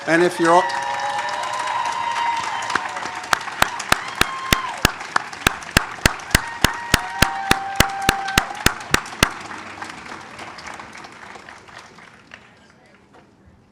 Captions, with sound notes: And if you're- (audience cheers)